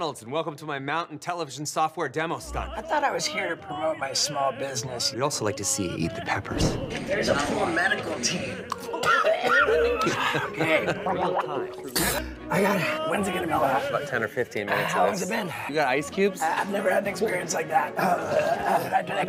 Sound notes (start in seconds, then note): 9.0 Steve-O coughing; 11.6 Steve-O swishing and puking